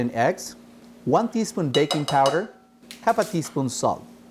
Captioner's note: spoon banging